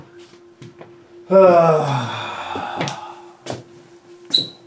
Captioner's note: sighs in exasperation